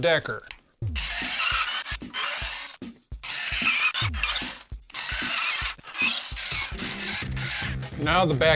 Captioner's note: drill noises